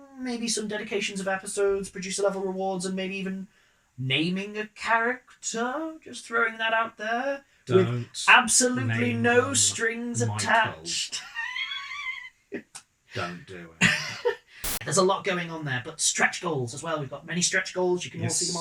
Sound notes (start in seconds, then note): 11.2 laugh